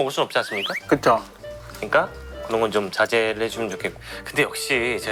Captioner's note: jelly munch